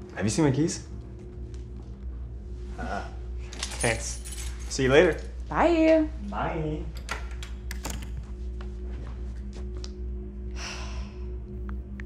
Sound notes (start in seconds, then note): 7.0 door opens and closes; 10.5 sighs